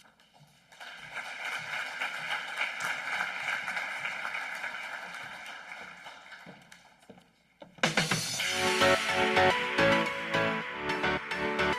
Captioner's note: applause and Music